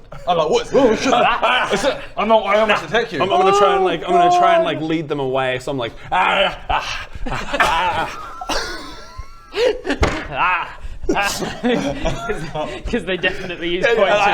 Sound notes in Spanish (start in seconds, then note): 9.9 golpe en la mesa